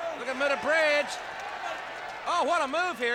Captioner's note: audience cheers